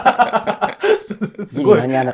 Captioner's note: laughing